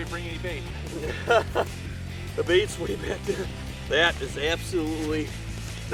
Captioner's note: laughing